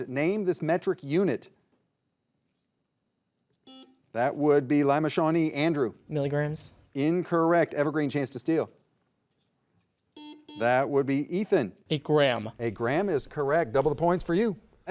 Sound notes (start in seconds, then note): 3.6 buzzer buzzing; 10.1 buzzer buzzing